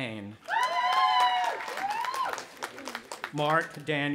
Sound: audience applauding and cheering

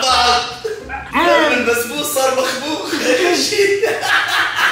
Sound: everyone laughs

